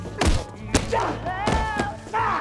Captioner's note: punching; grunting